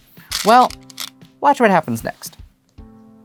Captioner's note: stones rattling